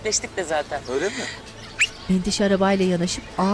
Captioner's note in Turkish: Islık sesi; Kuş cıvıltısı sesi; Çocuk sesleri